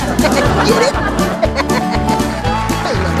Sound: Chuck E laugh

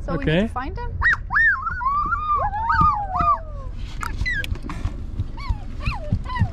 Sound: screeches excitedly

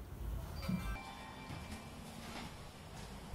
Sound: phone Ringing

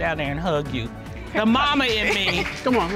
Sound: chuckles

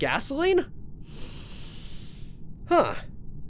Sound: sniff

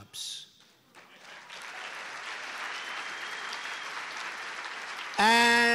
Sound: applause

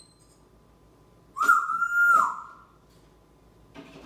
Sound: whistling

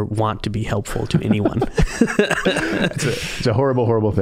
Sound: both laughing

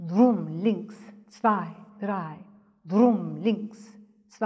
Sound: speaks in German

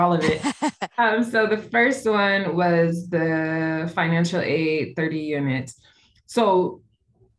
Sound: laughter

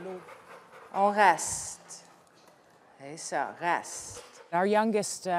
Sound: speaking French

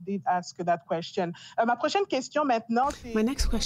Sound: speaking in French

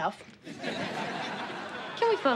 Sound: audience laughing

